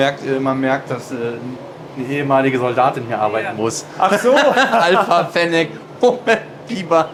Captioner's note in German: gelächter